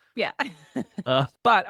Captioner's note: laughs